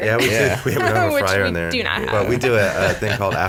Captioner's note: laughs